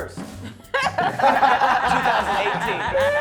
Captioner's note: laughing